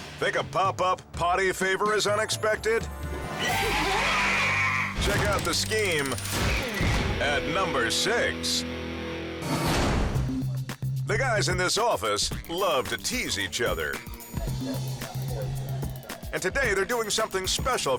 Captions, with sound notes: Think a popup potty favor is unexpected. (head screams) Check out the scheme at number six. (suspenseful music) The guys in this office love to tease each other, and today they're doing something special